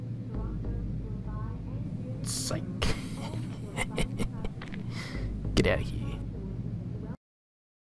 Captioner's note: soft chuckle